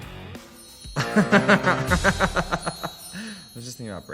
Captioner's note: laughs loudly